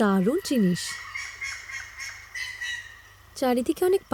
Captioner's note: birds chirping